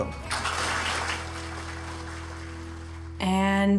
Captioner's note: applause